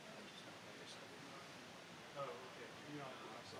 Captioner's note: none